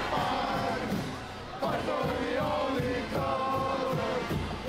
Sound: team chanting

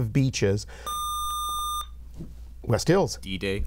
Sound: buzzer

